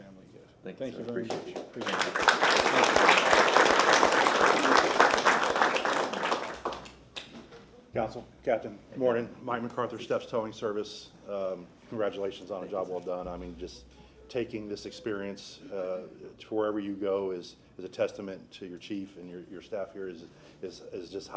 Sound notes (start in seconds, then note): 5.5 applause